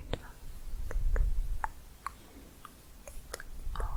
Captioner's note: tongue clicking